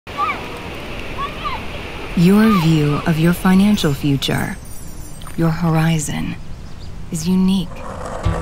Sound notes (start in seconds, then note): 1.0 children chattering